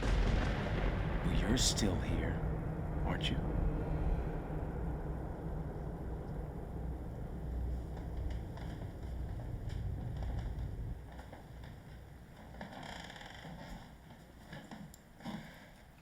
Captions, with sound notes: - Well, you're still here, aren't you? (tense music continues) (floor creaking)